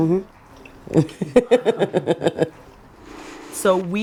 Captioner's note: laughs cheerfully